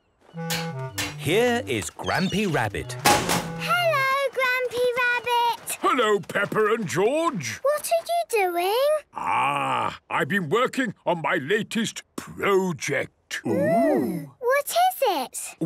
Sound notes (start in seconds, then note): 3.2 chrashing